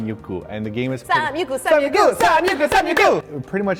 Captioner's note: chanting